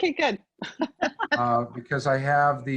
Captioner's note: multiple people laughing